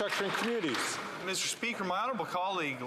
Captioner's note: some Applause